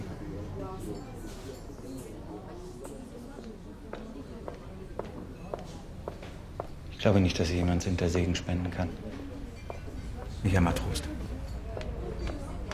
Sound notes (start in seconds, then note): 3.3 footsteps passing; 9.6 footsteps continue